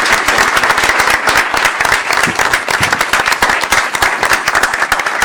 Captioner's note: applause